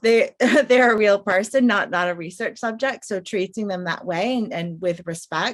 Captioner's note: laughs